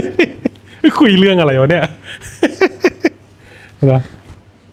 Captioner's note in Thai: เสียงหัวเราะ